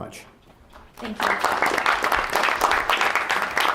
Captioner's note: applause